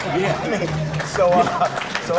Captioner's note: laughing; clapping